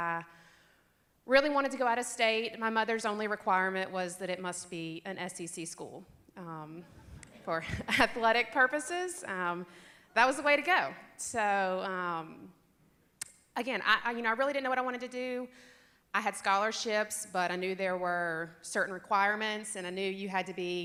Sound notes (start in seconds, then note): 6.1 loud laughter